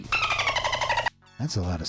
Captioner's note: dolphin squeaking